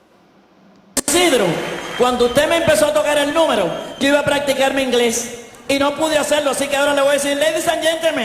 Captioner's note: speaking spanish